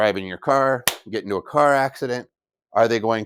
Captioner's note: thwack